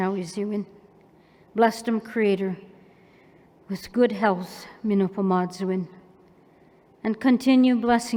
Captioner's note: non-english; non-english